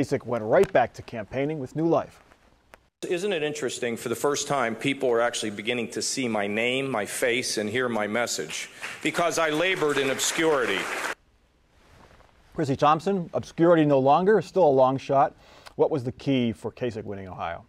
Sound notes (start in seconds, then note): 8.4 applause